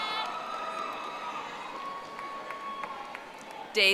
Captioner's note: audience applauding